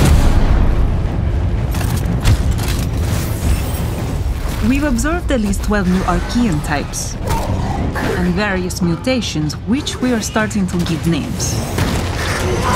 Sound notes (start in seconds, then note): 0.0 explosion; 1.7 weapon clicking; 7.6 snarling